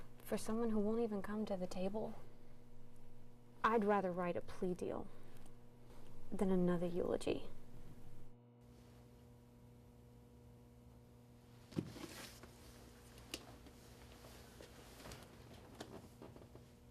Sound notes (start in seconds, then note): 11.8 rustling